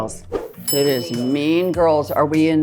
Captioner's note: bell dings